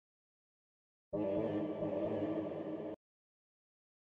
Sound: scary sounds

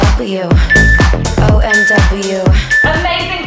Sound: timer beeping

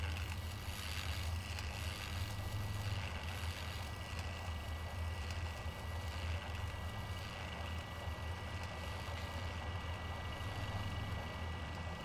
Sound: mechanical grinding

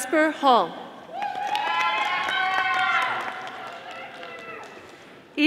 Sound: audience applauding

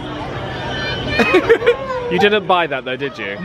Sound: laughs

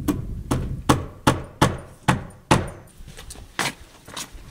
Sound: hammering nail

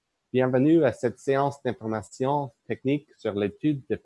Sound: speaking in French

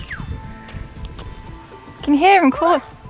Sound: shepherd whistling and shouting

